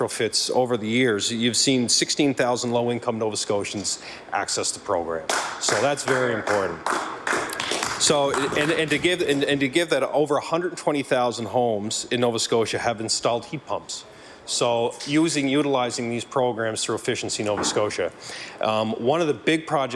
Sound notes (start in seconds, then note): 8.4 applause